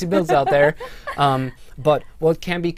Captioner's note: laughter